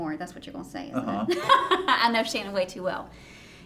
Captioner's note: laughing